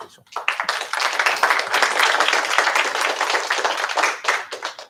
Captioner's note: applause